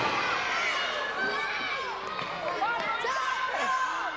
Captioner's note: thud; shouting